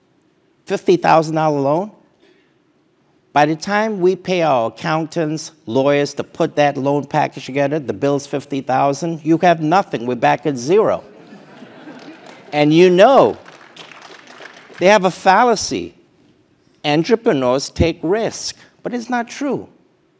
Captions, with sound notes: $50,000 loan, by the time we pay our accountants, lawyers, to put that loan package together, the bill is 50,000, you have nothing, we're back at zero. >> [LAUGH] >> And you know- >> [APPLAUSE] >> They have a fallacy, entrepreneurs take risk, but it's not true.